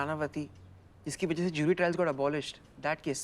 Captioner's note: traffic sound